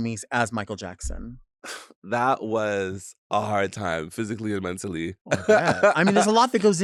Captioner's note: laughs